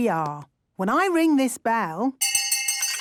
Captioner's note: hand bell ringing; tea cups clinking